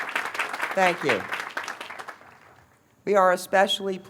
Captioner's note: applause